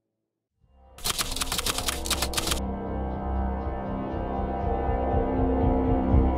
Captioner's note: typewriter clicking; ominous music